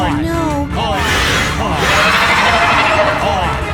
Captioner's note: screech